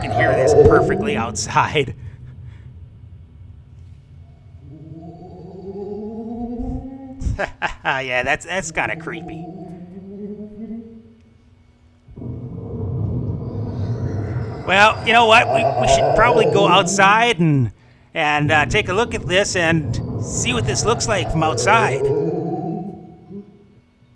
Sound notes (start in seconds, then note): 9.9 thunder and ghost sounds